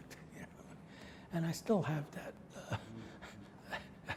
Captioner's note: laughs